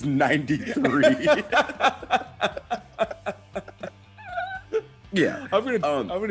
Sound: laugh

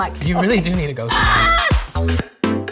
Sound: laughing; upbeat music

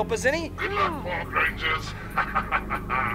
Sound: laughs

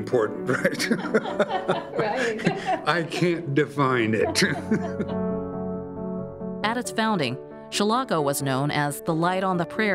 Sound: laughter

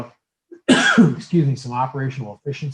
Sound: coughs

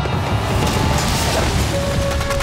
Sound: booming

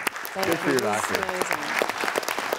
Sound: audience Clapping

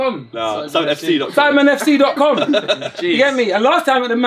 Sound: all laughing

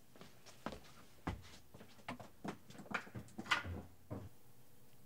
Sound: footsteps departing

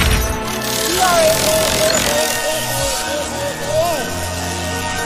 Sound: roars

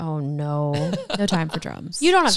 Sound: laughs

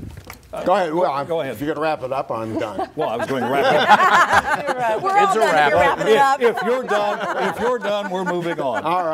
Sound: laughter

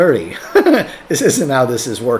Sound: laughs

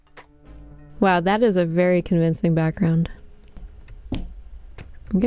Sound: thunderstorm sounds, eerie music

